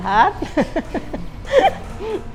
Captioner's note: laughs